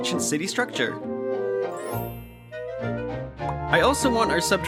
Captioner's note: magical chime